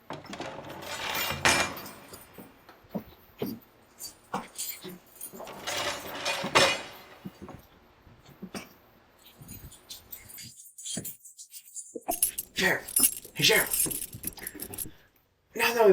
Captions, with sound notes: (iron clanks) (keys jingling) - Sheriff, hey, sheriff.